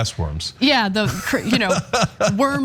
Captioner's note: laugh